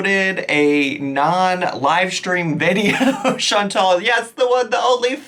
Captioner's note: chuckles